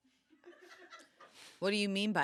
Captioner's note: crew laughs